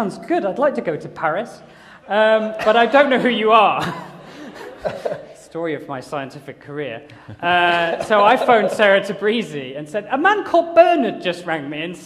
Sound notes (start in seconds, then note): 6.7 laughter